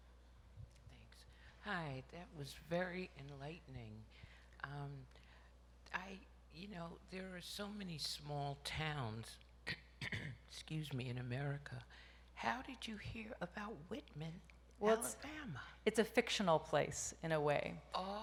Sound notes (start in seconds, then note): 9.7 clears throat